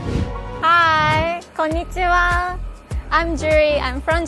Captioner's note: speaking in foreign language